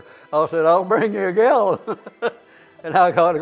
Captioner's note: laughs